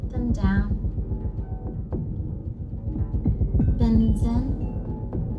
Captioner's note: sound similar to heartbeat